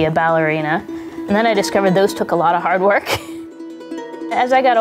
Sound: laughs

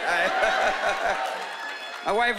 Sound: chuckling

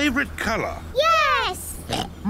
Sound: oinks

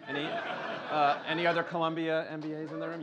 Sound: laughter

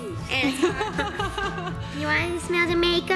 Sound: laughing

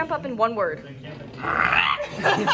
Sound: croak

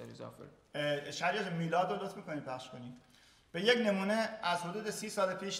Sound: speaking in farsi

